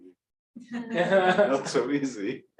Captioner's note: laughter